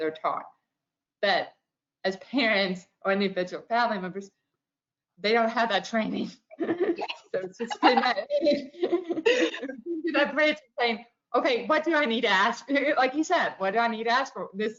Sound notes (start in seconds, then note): 7.5 chuckles